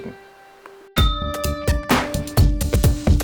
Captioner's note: ding